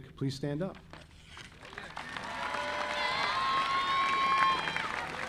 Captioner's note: audience applauding